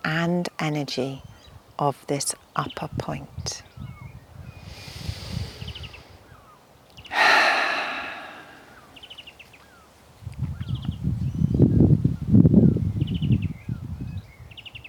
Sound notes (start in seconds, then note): 7.1 sighs; 9.3 birds chirping; 9.3 wind whooshing